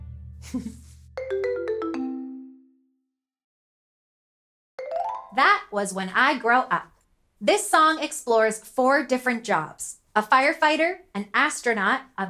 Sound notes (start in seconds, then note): 0.4 chuckling; 1.6 lively music